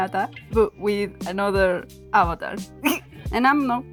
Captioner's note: snicker